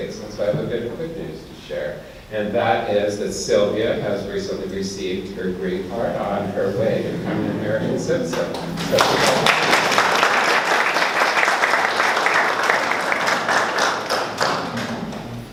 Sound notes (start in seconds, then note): 8.2 audience clapping